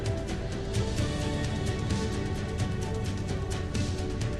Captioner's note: uplifting music; plane engine burbling